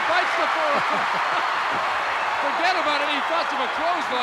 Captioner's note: laughs